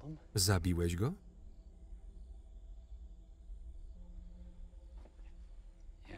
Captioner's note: crickets chirping; tense music